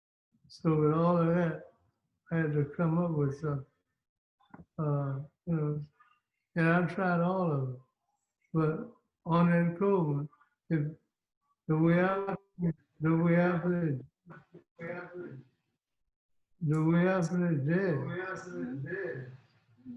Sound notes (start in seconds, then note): 17.8 echo feedback in the background